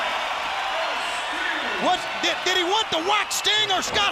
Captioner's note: crowd cheering